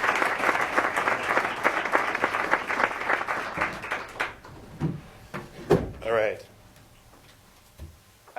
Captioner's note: applause